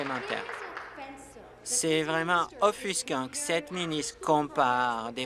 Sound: applause

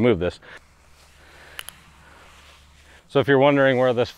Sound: rustling dragging sound

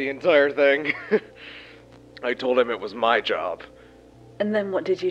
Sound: laughs

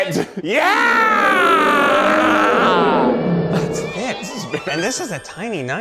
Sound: lion roaring sound

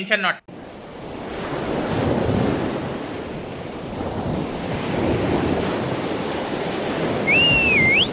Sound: sea waves

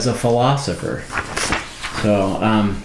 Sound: paper rustling

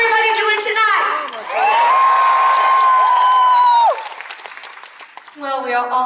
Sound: applause; cheering

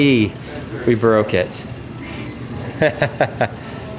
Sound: chuckles

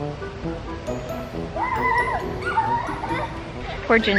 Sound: kids giggling and screaming

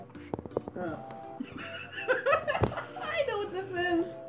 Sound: maniacal Laughter

